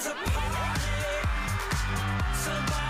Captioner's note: crowd cheering